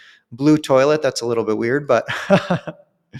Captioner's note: chuckles